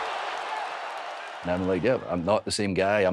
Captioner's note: crowd cheering